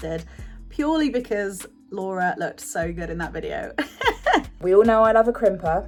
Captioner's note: laughs